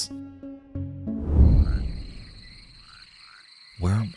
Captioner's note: frogs croaking